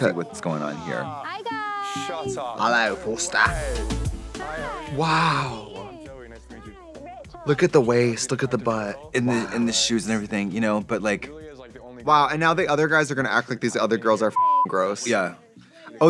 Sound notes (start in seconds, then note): 2.7 Australian accent